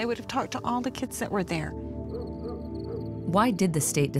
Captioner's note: dog barking in distance